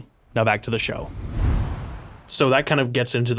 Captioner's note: screen whooshing